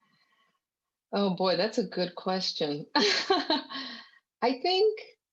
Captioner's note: chuckles